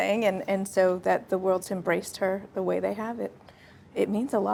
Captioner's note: Elsa breathes deeply